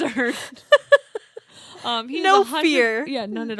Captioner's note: laughs